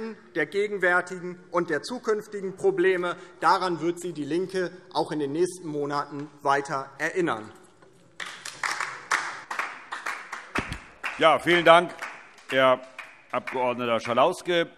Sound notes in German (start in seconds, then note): 8.2 Beifall DIE LINKE